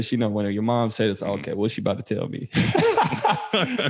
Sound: laughs

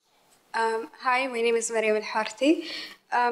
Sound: foreign language

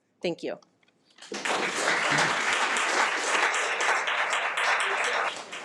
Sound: audience applause

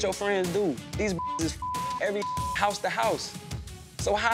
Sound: beep

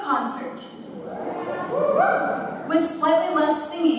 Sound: audience cheers

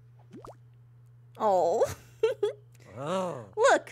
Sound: laughs

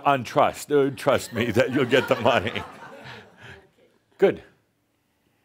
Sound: more laughter

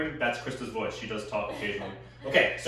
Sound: giggling

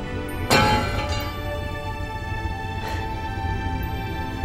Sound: hopeful music; sword clattering

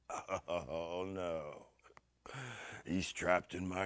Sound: chuckles

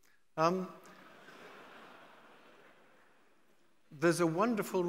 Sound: audience laughing

